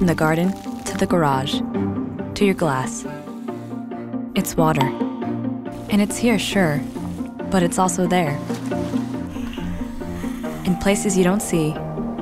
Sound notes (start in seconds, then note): 3.4 faucet running; 5.6 water dripping; 9.1 steam rushing; 9.1 water splashing